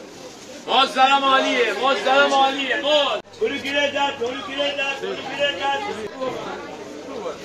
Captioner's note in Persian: صدای همهمه و تبلیغ فروشنده‌های بازار